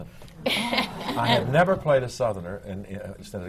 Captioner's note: laughter